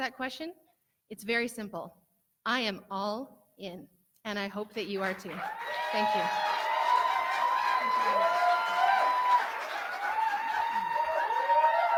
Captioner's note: cheering and clapping